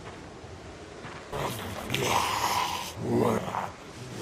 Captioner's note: zombie grunting